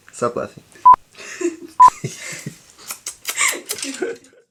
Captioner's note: laughing